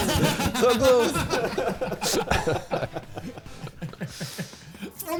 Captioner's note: players laughing